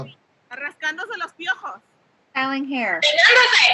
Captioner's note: woman speaking Spanish